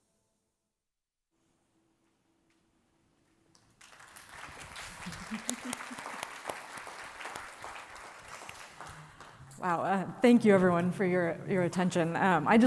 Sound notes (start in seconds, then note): 3.6 audience clapping